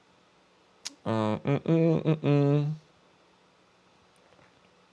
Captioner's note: hums